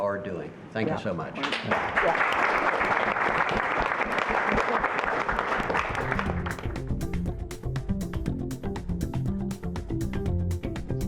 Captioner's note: applause